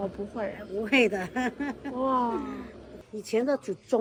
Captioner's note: woman laugh